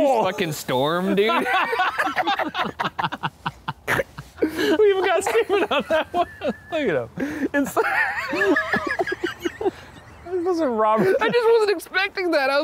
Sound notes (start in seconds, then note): 1.4 group laughing; 7.5 group laughing